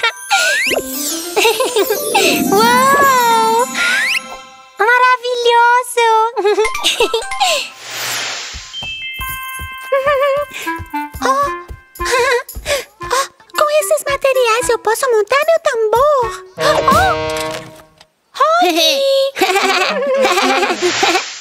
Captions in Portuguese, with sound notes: (Risas) Uaaauuu!!! Maravilhoso! ajaja Jajajaja ¡Oh! Com estes materiais eu posso montar meu tambor. ¡Oohh! Mm Oh Hoggie! Jejeje! Jajaja!